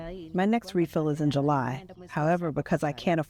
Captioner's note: through translator